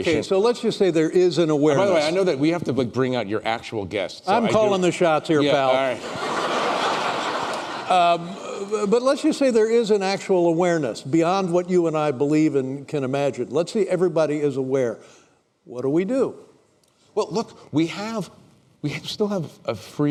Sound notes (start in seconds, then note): 5.9 laughter